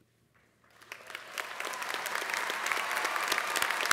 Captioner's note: applause